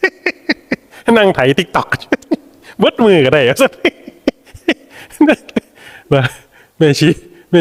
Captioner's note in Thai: เสียงหัวเราะ